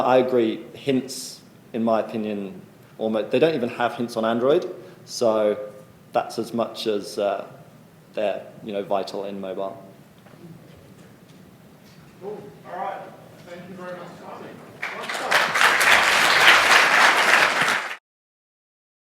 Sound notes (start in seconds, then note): 14.2 applause